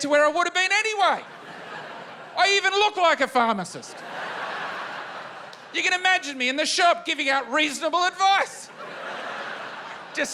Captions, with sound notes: to get to where I would've been anyway. I even look like a pharmacist. (LAUGHTER) You can imagine me in the shop giving out reasonable advice.